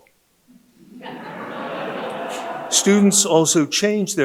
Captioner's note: audience laughing